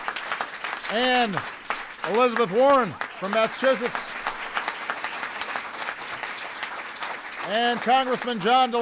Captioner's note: applause